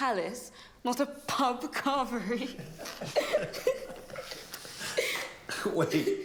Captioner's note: Alex laughing; laughs